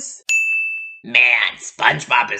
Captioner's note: ding